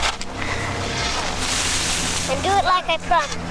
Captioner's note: gentle music; sand crunching